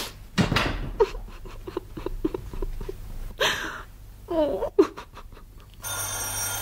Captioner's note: Alice cries; telephone ringing